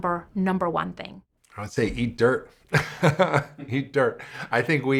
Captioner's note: laughs